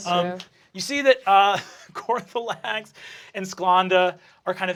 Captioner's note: laughing